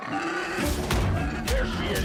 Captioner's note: alien roars